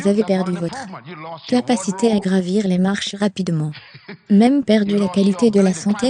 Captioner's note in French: rires